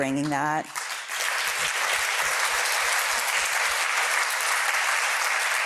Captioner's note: applause